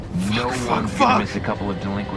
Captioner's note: someone coughs